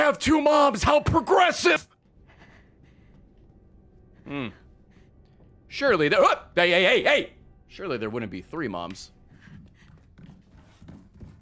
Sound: laughs

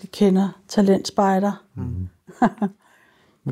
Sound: laughs

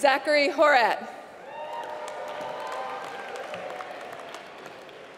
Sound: applause

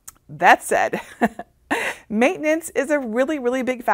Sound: laughing

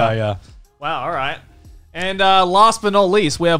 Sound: none

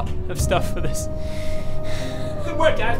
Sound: sad DM noises

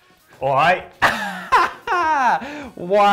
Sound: brit accent

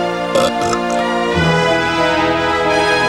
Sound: burp

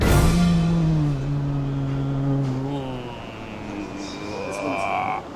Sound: mumbles in slow motion

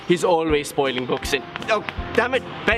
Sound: smack on head

